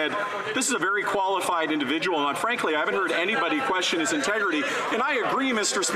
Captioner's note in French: voix de l'interprète